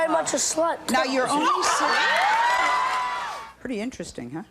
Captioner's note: cheering